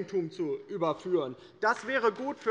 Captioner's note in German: Beifall bei der LINKEN